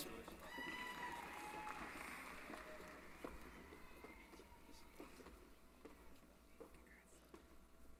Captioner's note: applause